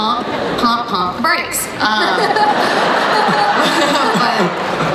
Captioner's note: laughing